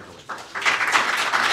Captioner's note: applause